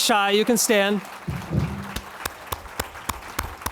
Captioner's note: clapping